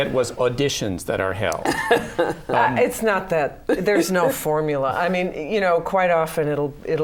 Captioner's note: laughter